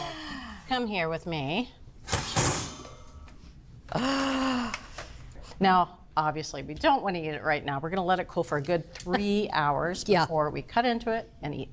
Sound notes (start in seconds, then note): 3.5 gasps